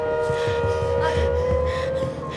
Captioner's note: Maddy panting; knock on door